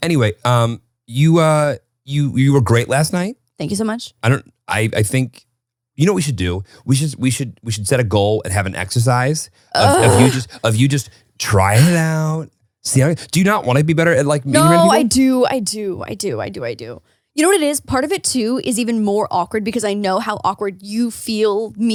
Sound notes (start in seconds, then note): 9.7 groans